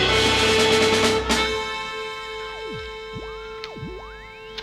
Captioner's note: shortwave radio being tuned in